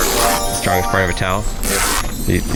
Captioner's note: twinkling